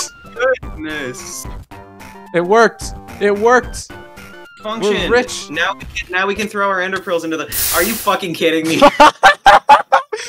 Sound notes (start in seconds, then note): 7.0 dying sounds; 8.8 high-pitched skedgy laugh; 10.0 inhale